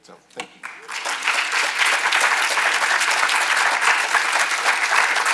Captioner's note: audience applauding